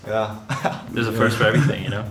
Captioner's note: laughing